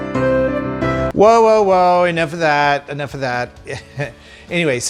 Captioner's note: laughs